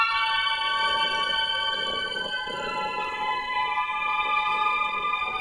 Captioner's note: snoring